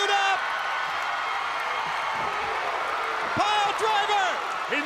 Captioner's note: crowd cheering